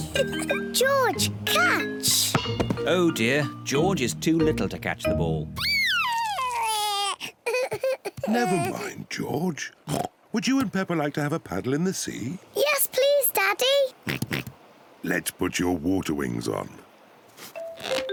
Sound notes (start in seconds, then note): 5.6 crying; 14.1 oinks